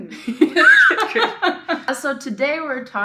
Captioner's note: laughs